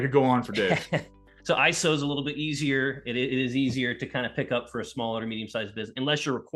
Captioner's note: laughs